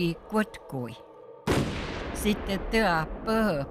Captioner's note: gunshot